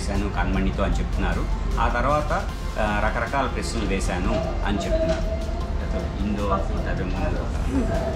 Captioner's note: car engine noise